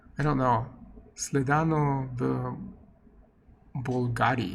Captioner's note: non-english speech